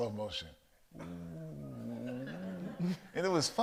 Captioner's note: mimics slow motion distortion